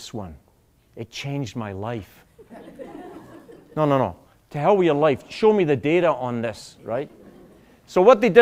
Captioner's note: laughter